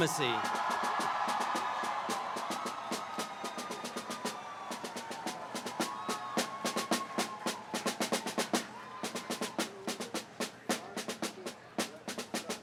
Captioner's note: applause